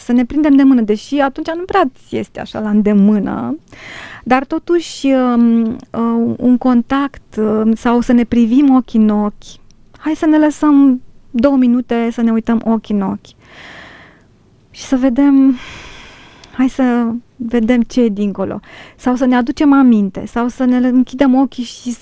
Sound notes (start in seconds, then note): 18.1 sigh